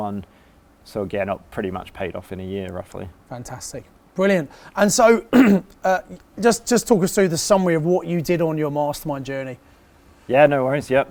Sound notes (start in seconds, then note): 5.3 clears throat